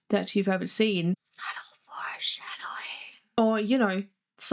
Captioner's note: whispering